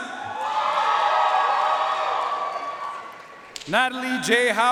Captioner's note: audience cheering and applauding